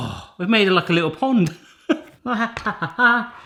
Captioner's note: laughing